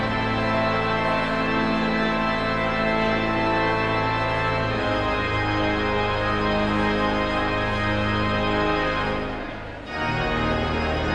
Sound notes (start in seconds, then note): 4.8 pipe organ music continues; 5.5 audience chatter continues